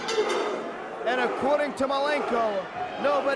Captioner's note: bell ringing